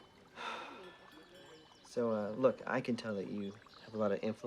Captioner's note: sighs